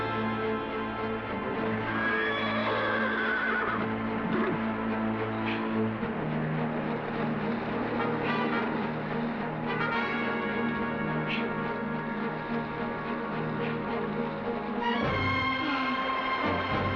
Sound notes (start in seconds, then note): 1.8 horse whinnying